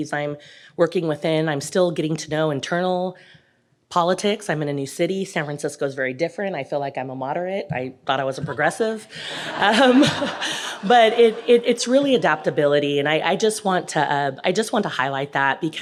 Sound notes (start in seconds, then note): 9.2 audience laughing